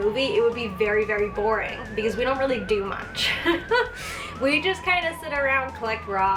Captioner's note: laugh